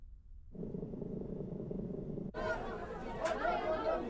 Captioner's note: people chattering